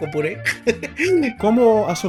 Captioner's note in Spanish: risas